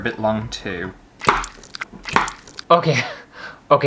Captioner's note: bloody Squishes